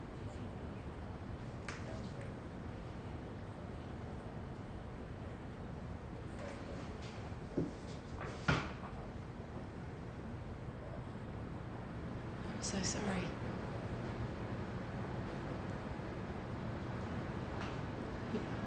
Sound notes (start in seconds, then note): 15.2 car engines whir